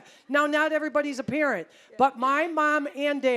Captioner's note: none